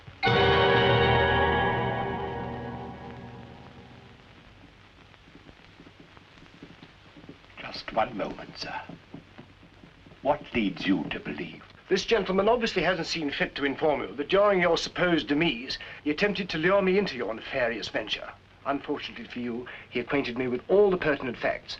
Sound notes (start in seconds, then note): 4.1 druming fingers